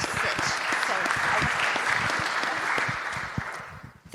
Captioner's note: crowd applauds